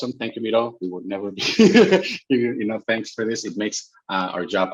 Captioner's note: laughs